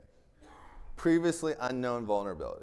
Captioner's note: attendee coughing